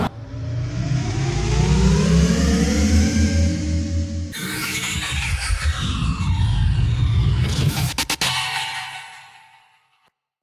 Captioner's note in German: Raumschiffgeräusch